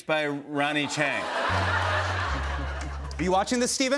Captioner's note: laughter